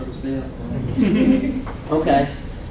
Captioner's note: laughing